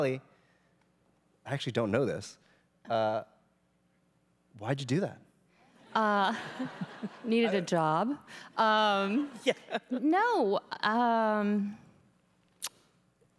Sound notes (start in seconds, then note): 6.2 laughing